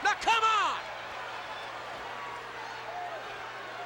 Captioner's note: crowd boos